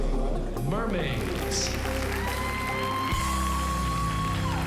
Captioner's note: cheering